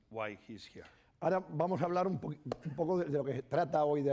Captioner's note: speaking spanish